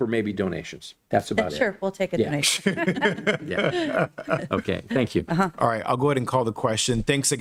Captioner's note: laughter